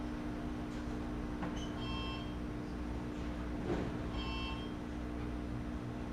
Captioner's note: alarm Beeping Louder, Continues